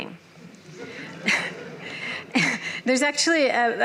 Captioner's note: laughter